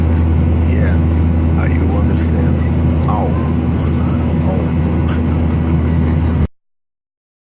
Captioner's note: laugh